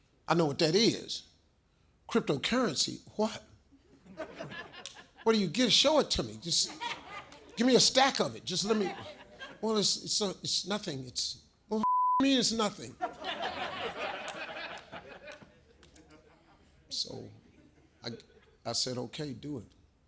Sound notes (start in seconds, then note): 11.8 beep; 12.8 audience laughs